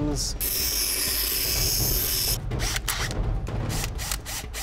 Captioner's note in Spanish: Sonidos mecánicos